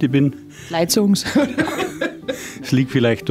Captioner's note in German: lacht